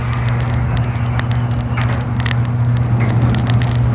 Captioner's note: crackle from old record player needle; garage door squeaks open